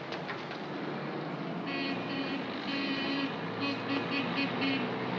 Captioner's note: jeep horn honks